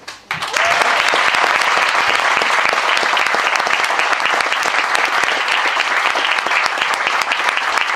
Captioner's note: applause